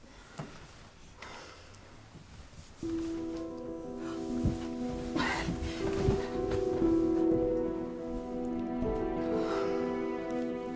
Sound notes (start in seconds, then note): 2.5 gentle music; 5.2 gasps